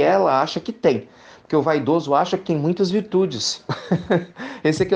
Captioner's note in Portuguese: risos